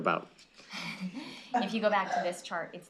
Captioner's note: laughter